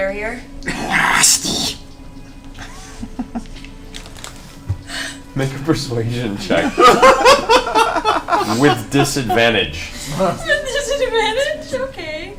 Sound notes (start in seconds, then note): 1.9 Gollum voice; 6.4 all laugh